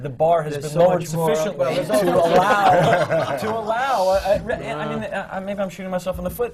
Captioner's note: laughter